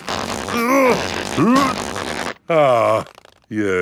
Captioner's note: grunting